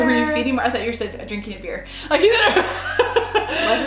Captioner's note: laughs